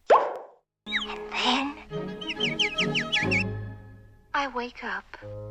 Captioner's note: animals vocalise upwards